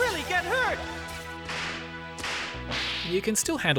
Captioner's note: whip cracks